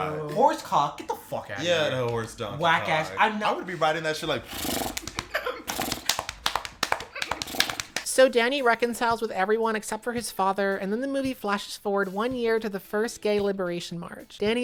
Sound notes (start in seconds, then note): 4.3 then does surprisingly accurate horse noises